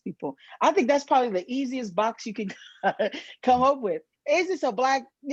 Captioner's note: chuckles